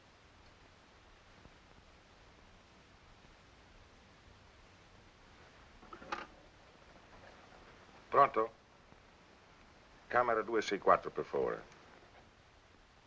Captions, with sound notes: Pronto... [speaks Italian] Room 264, please.